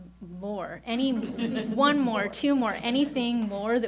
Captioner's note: audience chuckles